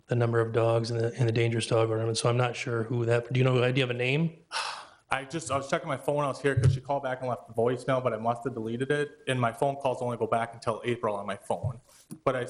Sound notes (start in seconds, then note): 4.5 exhales